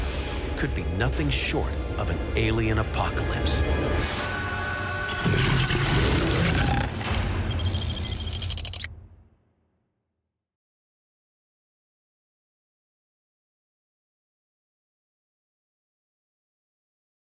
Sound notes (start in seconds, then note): 5.0 robotic whirring; 7.0 audio logo